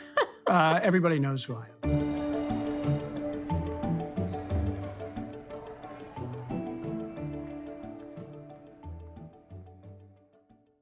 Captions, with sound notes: Everybody knows who I am. (bell ringing) (bright music)